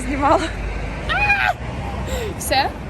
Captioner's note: scream of pain